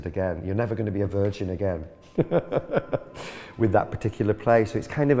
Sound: laughing

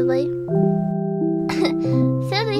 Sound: koff

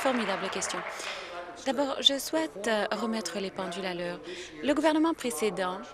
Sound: applause

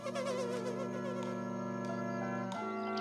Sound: engine running, horn honking

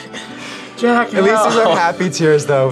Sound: laughs

